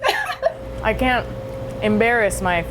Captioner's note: laughter